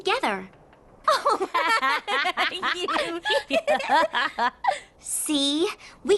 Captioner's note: both laugh